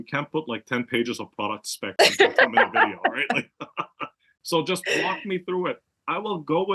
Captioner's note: laugh